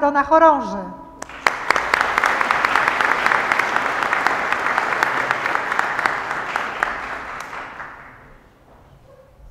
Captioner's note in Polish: oklaski